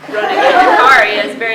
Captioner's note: laughter